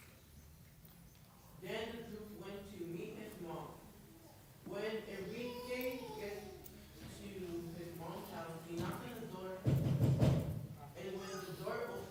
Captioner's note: knocks